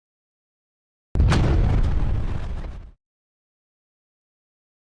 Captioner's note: boom